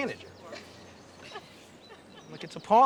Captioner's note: laughing